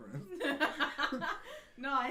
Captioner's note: laughing